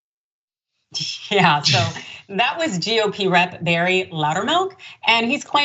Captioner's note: laugh